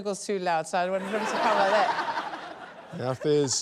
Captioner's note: laughter